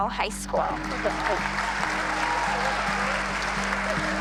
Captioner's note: applause